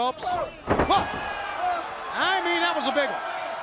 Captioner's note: crowd chatter